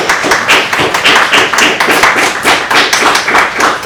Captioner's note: claps